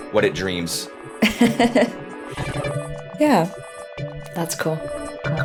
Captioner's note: laughs